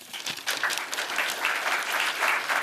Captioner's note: applause